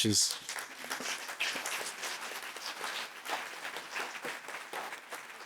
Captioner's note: applause